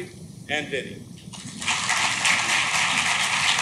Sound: clapping

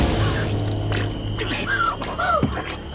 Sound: gurgling; Deni gasps

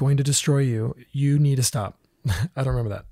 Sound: laughs

